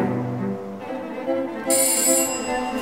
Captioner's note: doorbell